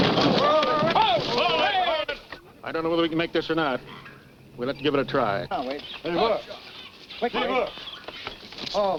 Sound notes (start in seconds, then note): 0.3 men shout; 7.2 men shout